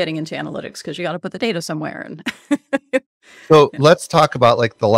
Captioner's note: chuckles